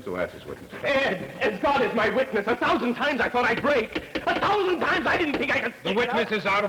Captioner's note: interrupted by banging gavel